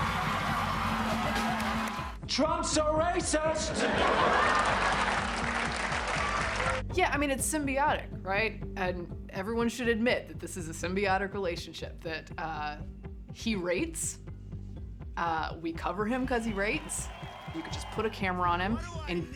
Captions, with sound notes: - so they had this endless appetite for Trump because they had endless appetite for ratings. (upbeat music) - Trump is a racist (crowd laughs and claps) - Yeah, I mean, it's symbiotic, right? And everyone should admit, that this is a symbiotic relationship that he rates,